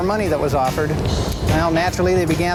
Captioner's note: voiceover